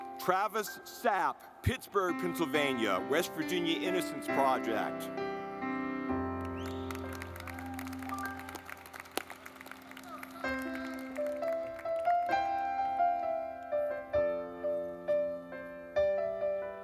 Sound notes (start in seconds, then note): 5.1 gentle music; 6.3 audience clapping